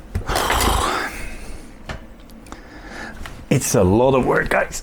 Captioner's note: blowing